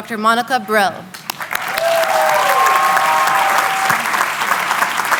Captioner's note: applause